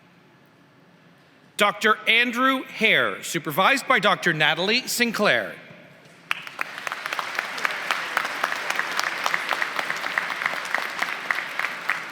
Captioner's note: applause